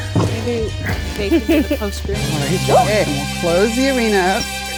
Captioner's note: intense old west music; laughs